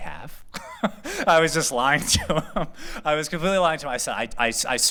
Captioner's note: laughter